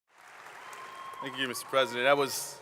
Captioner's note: crowd cheering